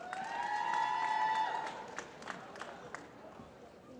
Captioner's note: applause